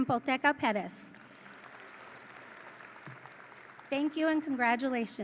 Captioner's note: audience applauds and cheers